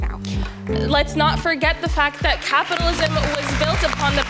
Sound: audience applauding

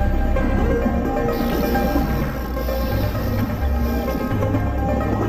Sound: dolphin sounds

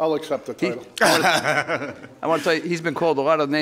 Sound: laughing

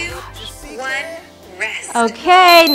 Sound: beeps

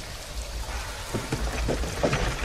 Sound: mechanical noises

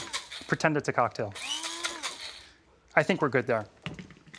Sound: whirring stops

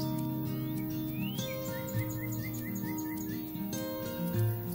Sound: sounds of birds singing

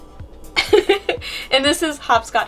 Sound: laughs

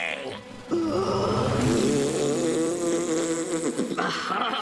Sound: blowing raspberry

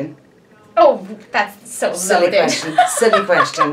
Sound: laughing

